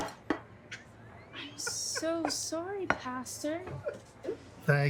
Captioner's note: pastor laughing